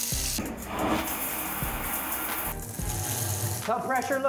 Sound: water running

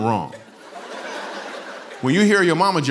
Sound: laughter

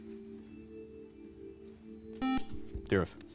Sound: buzzer

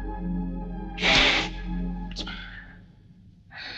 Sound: sniffles

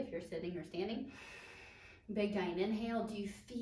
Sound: inhaling air

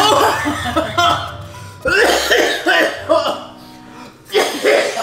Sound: laughing; coughing

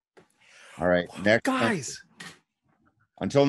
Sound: sighing

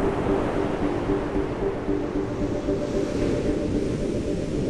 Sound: waves crashing

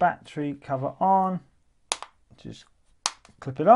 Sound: snapping

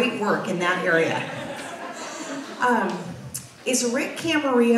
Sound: audience laughs

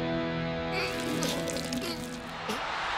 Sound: whimpers; cheers and applause

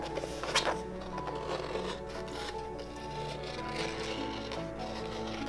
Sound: leather scraping

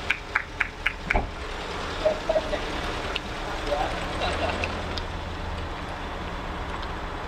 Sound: sounds of clapping

